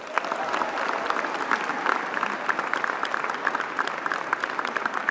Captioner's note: applause